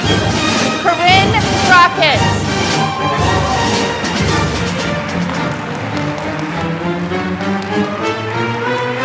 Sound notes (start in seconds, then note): 3.8 applause